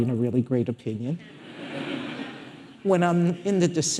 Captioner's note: audience laughing